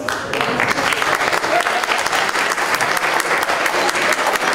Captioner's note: applause